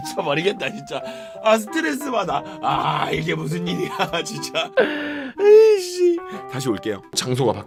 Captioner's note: crying